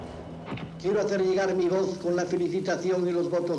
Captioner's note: Franco speaking Spanish